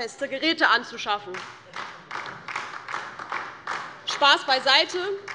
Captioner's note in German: Beifall DIE LINKE